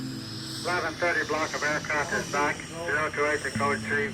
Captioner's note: radio chatter